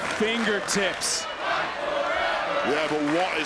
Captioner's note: crowd chants "Fight forever"